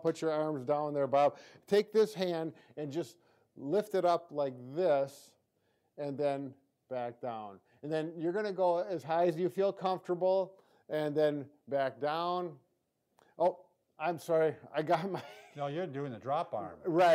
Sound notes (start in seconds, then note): 14.9 chuckles